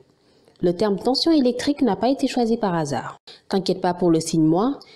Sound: french

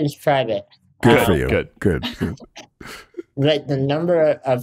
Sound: chuckles

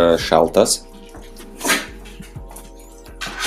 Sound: Terra sneezes in Dog language

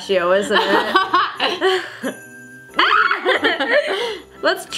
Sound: both laugh

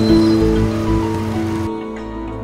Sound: phone ringing

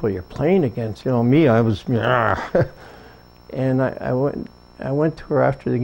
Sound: arrgh

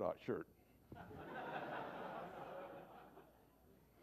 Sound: laughter

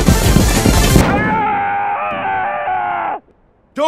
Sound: German Screaming

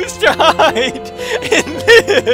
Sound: laughing/crying; gasp

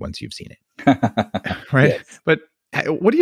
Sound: laughs

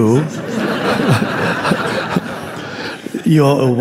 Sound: audience laughing

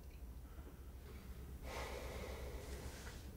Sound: Nosa sighs

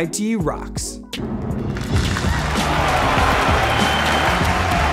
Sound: crowd applauds

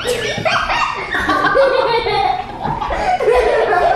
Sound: laughing

